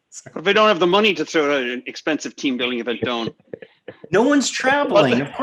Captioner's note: laughs